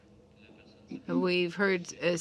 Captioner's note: speaking French